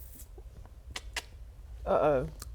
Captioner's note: click click